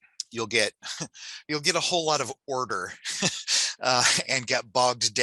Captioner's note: chuckles